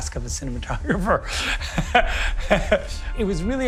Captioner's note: Zack chuckles